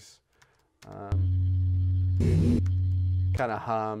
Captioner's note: electronic hum plays